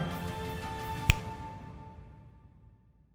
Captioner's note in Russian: щелчок пальцем